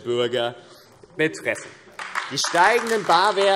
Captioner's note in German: Beifall AfD